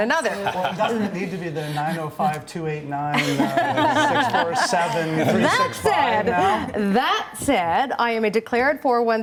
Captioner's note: laughter